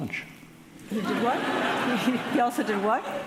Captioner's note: audience laughing